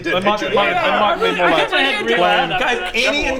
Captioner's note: tsk